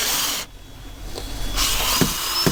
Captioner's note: drilling